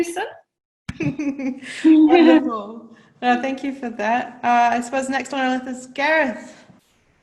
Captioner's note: laughs